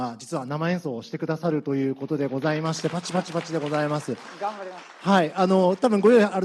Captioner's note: applause